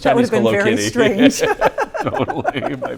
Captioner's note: laughing